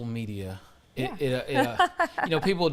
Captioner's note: laugha